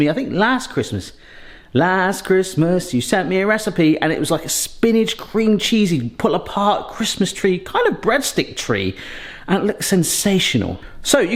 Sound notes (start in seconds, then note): none